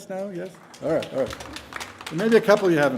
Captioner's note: audience applauding